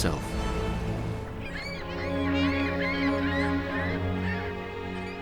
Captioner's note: seagulls squawking